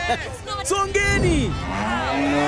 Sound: laughing; cows mooing; screaming indistinctly

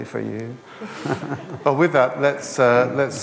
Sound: laughter

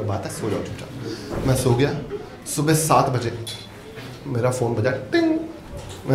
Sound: audience laughs

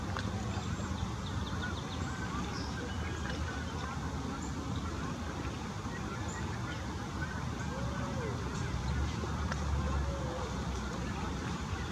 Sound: birds chirping

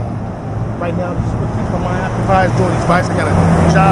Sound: truck drives

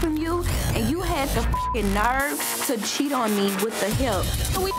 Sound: beep

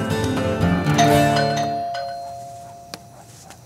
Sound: doorbell goes on

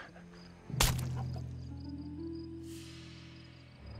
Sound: Squish

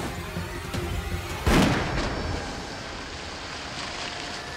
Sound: gunshot

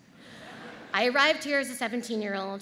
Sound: audience laughs

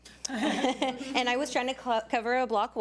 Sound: audience laughs

